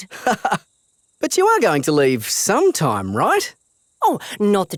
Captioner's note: laughs